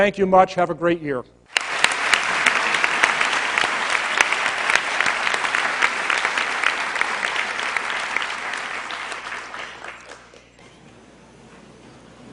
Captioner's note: applause